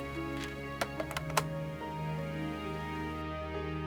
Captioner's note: phone clacks